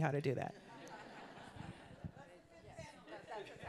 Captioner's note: all laughing